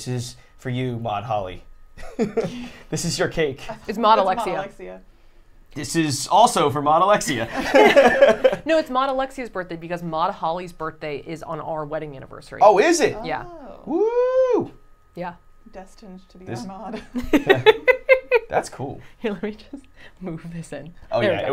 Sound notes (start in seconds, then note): 7.3 all laughing; 16.6 laughing